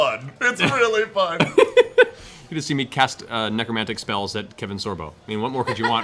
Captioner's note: laughs